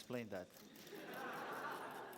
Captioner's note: laughter